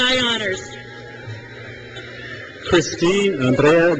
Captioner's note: crowd cheers